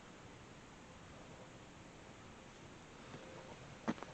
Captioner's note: walking sounds